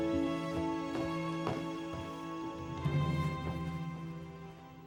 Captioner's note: heels clack